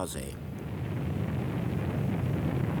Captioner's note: rocket blasting sounds